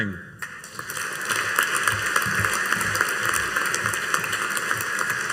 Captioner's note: audience applauding